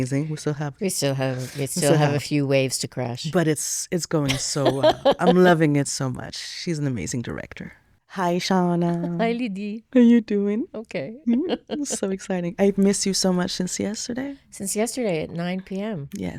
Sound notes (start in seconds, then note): 4.2 laughing; 11.2 laughs